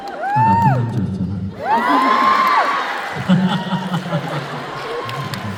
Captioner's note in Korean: 환호